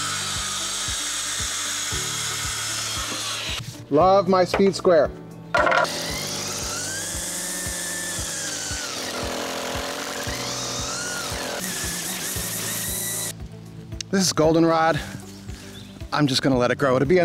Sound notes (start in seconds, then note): 5.6 trimmer whirring